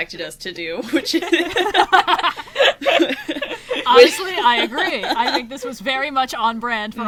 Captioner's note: laughs